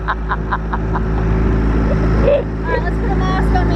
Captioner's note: laughing; motor running